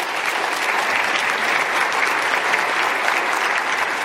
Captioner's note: applause